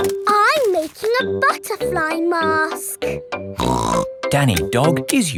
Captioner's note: snorts